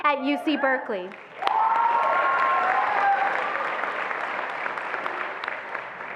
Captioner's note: attendees applauding and cheering